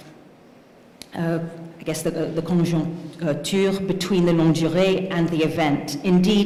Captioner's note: speaking french